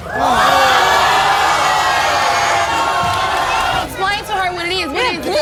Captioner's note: audience yelling